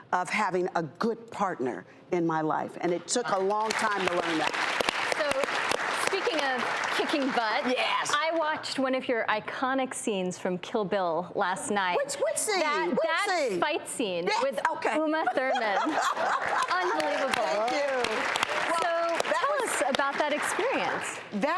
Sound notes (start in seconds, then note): 15.2 laughing; 18.1 audience clapping